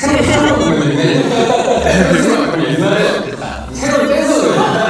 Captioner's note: haha / Haha